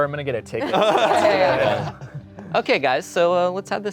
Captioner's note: everyone laughing